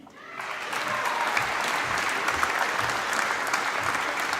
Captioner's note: applause